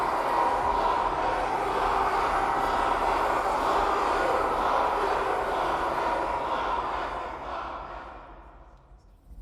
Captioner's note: cheering